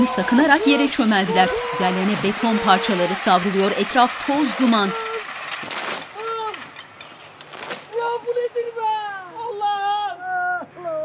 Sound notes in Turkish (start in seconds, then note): 2.3 Yıkılma sesi; 5.3 Bağırma sesi